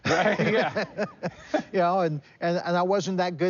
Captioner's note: laughs